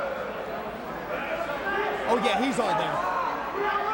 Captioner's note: crowd chatter